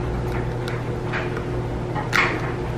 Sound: loud washing machine in background

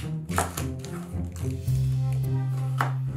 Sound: knife chopping

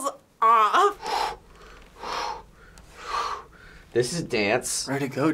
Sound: centered breaths

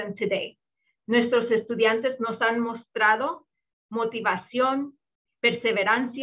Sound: speaking in foreign language

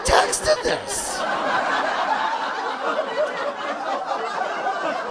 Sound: audience laughing

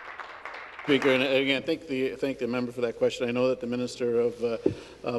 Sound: some Applause

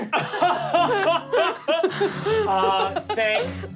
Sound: laughing

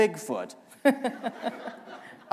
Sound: laughter

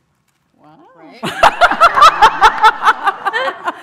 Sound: laughs

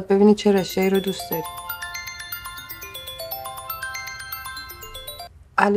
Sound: mobile ringing

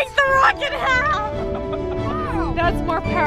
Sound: laughing

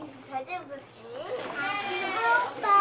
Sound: background chatter

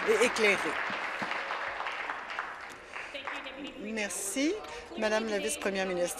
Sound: applause

